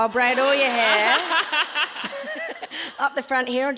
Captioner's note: audience laughs